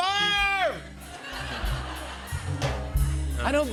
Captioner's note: laughter